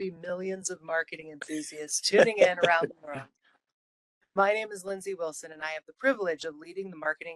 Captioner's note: laughing